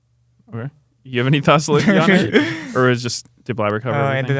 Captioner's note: laughs